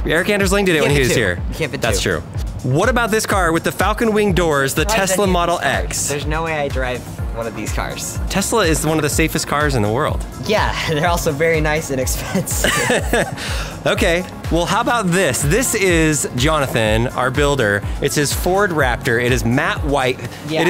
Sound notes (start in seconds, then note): 12.2 laughing